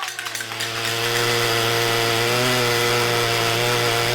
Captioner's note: tool buzzing